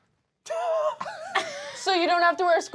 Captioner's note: laughing